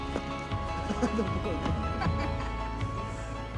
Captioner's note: laughs